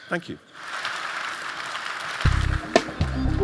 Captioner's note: audience clapping; cool tech music